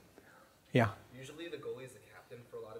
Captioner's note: voiceover